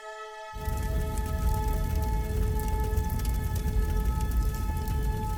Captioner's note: fire crackling